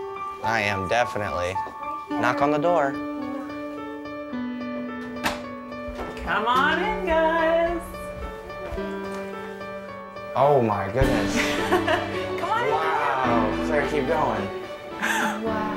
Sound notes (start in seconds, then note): 5.0 door opening; 11.4 laughter